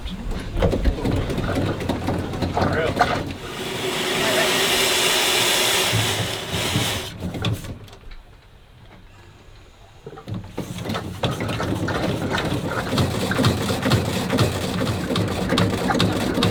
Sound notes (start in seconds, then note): 4.3 steam engine hissing; 11.4 engine engine whirring